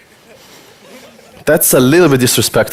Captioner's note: audience laughter